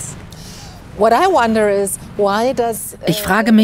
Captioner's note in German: englisch